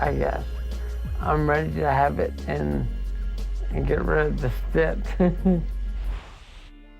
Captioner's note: chuckles